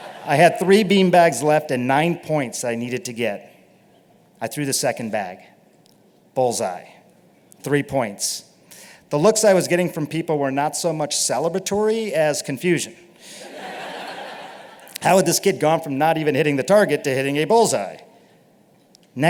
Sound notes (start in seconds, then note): 0.0 laughter; 13.4 laughter